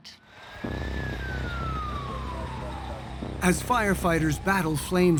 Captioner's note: sirens wailing